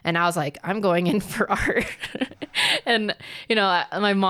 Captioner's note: laughs